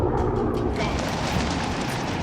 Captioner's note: dramatic music; wind gushing